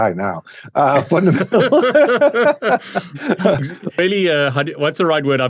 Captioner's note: both laughing